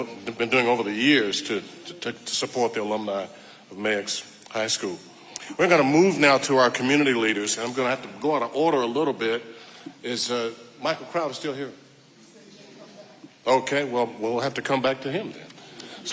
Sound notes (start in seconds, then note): 11.7 audience member responding quietly